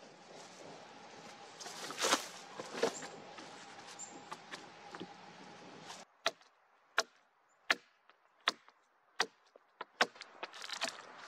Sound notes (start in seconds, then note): 0.1 leaves and branches crackling, chickadees chirping; 6.1 axe knocking on wood; 9.8 wood cracking, brushing the work with gloved hand